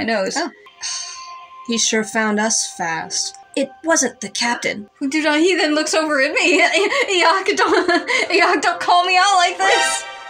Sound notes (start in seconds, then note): 6.4 laugh; 6.7 stutter